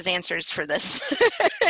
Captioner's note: laughter